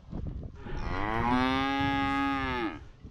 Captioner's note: calves mooing